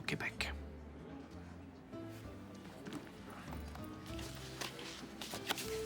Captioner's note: people chatter indistinctly